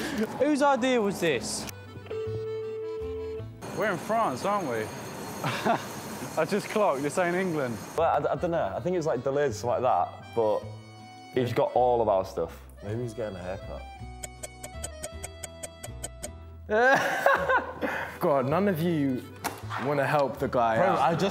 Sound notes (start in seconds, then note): 2.6 phone rings; 14.1 clock ticks